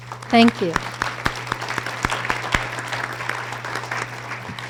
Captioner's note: audience applause